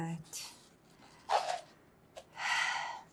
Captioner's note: sighing